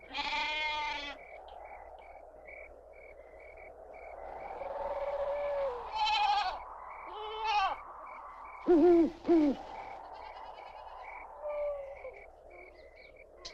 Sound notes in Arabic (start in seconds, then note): 0.1 نباح الماعز; 8.6 صياح البومة